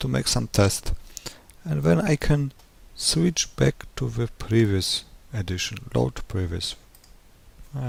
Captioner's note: click